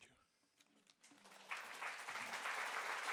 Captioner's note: applause